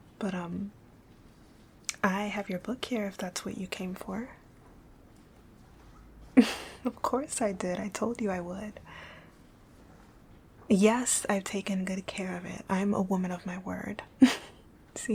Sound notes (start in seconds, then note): 6.3 laughing